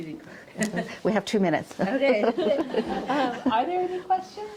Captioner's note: chuckles